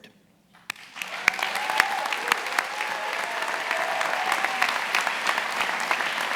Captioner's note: attendees applauding and cheering